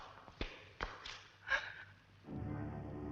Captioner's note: gasping; dramatic orchestral music